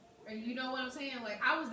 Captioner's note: none